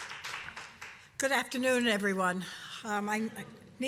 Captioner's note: applause